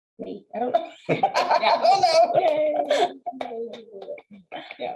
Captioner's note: laughing